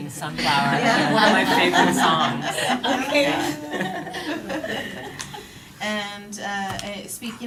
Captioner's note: laughter